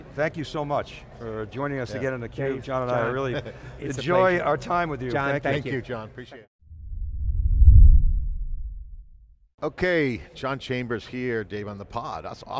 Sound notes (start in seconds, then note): 6.7 logo whooshing